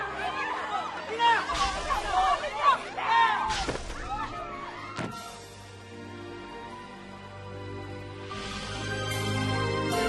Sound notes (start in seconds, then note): 3.5 thuds; 8.3 theme music playing